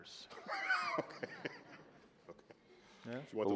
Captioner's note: laughter